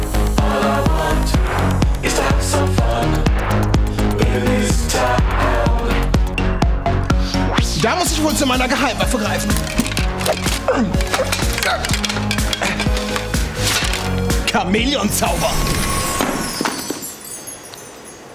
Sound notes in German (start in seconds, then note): 9.3 Geklapper